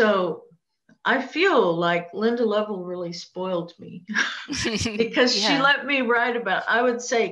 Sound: laughter

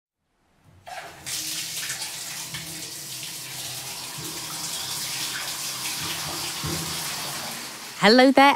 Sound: sound of water running out of taps

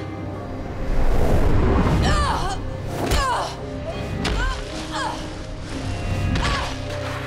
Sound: grunting, thudding

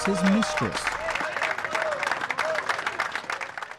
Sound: applause

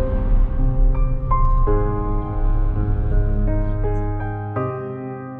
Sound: drone

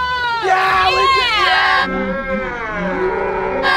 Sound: cheering

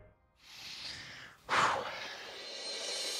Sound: sighs

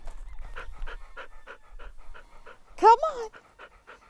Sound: dog panting

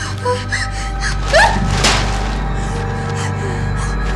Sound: scream

